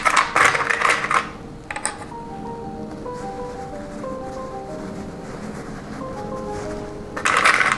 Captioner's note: clips rustling